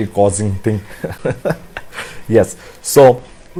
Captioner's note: laughs